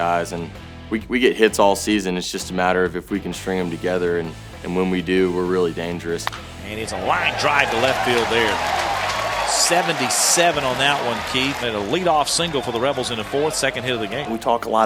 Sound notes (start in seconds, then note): 6.2 bat hits ball